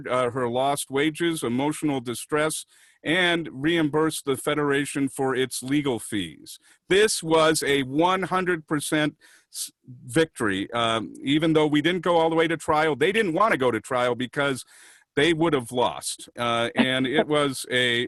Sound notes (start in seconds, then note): 16.7 laughter